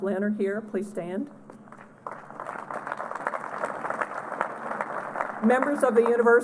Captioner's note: applause